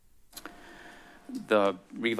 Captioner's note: smacks lips